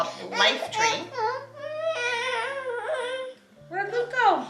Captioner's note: coos